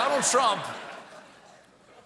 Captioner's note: laughter